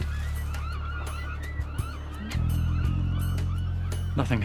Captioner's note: gulls squawking